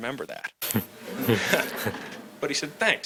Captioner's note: audience laughs